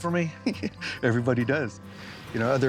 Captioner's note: chuckling